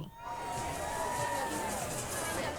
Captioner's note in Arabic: هتاف بعيد